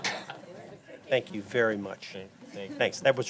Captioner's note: laughter